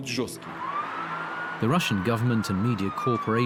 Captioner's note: siren wails